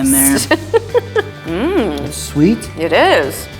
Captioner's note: laughs